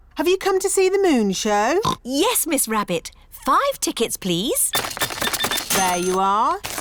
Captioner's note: oinks